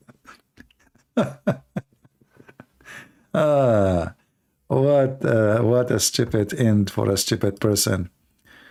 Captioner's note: Ketawa